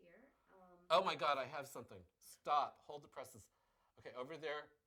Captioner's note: interrupting